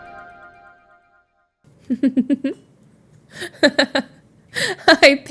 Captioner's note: Emma laughs